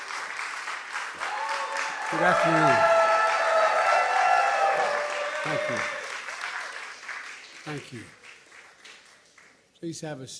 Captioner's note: cheers and applause